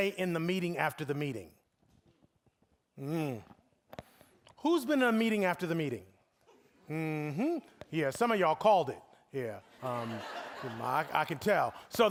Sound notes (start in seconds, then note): 9.7 audience laughing